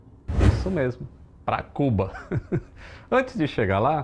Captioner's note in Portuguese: risos